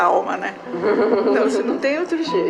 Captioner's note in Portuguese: risadas